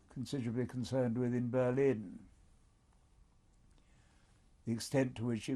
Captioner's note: pauses for 3 seconds